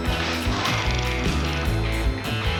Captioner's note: reel flickering; liquid splashing